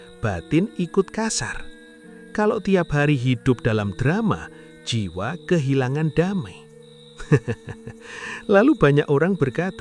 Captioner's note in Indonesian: tertawa